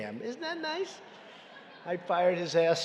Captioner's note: laughter